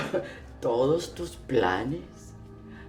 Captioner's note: Spanish